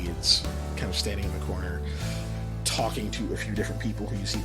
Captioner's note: none